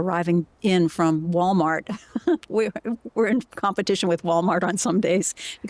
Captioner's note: laughter